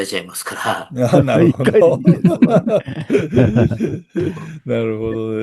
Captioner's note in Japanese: 笑い